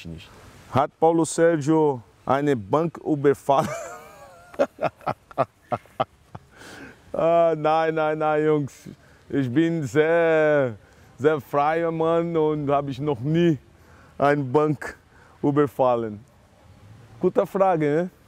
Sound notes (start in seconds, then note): 3.6 laughs